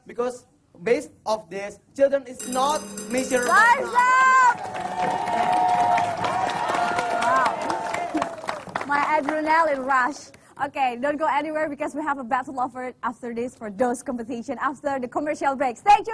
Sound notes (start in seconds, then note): 2.3 bell rings; 3.8 applause, cheers